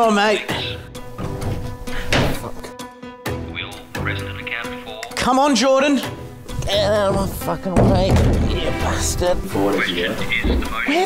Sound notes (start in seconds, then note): 2.1 bin lid closing; 7.6 bin thudding